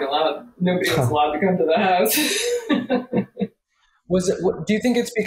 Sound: laughs

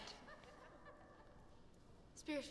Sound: students giggling

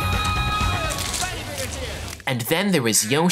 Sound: squishing

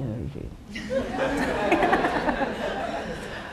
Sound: laughter

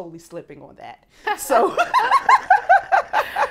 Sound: laughs

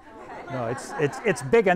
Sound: everyone laughs

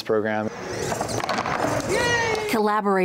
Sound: robot whirring

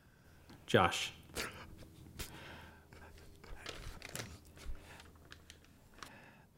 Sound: dad sobs

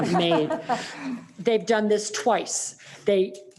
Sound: laughs

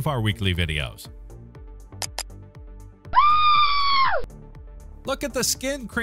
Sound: screaming behind the bathroom's door

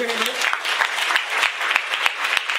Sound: applause

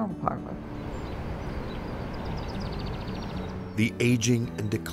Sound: birds chirping

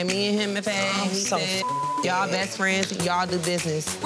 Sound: beep

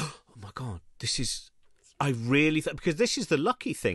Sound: gasps

